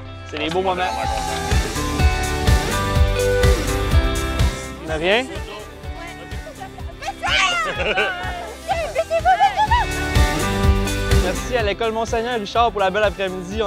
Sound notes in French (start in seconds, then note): 6.3 rires